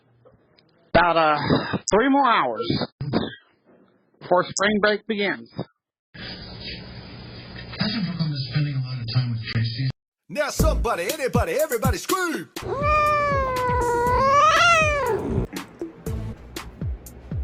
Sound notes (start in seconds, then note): 6.2 "General Hospital" plays in background; 12.6 Caprice meows angrily